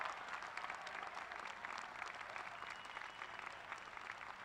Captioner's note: applause